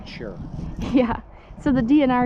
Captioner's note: laughs